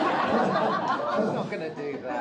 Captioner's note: crowd laughing